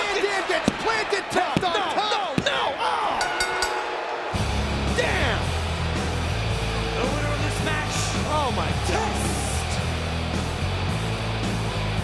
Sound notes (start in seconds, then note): 3.1 bell rings; 3.4 audience booing; 4.5 rock music